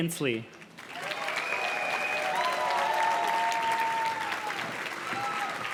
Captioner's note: audience cheers and claps